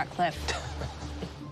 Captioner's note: Ben chuckles